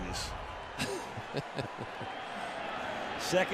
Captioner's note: laughs